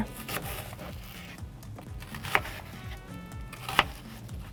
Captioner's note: knife thunking